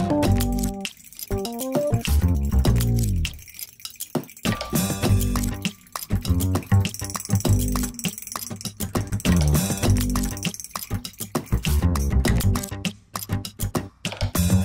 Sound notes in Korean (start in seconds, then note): 3.1 딸각딸각, 휘젓는 소리